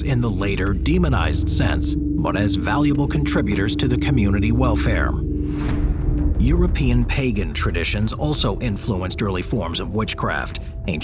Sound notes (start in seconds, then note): 5.3 screen wipe whooshes